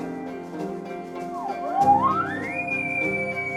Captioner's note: caller bugling